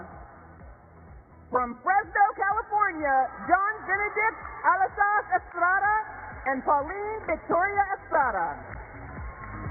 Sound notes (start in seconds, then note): 0.5 applause